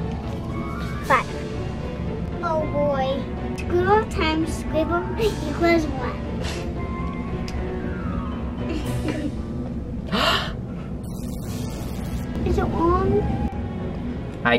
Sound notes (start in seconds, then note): 8.7 laughter; 10.1 gasps; 11.1 buzzer sounds